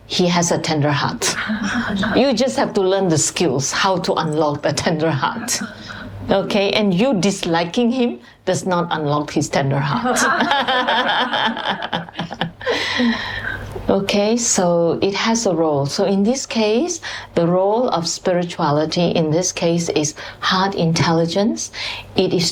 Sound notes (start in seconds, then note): 10.0 laughter; 13.0 笑聲